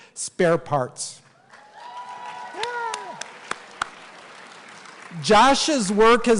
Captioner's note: cheering and Applause